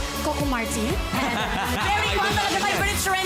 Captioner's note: robi laughs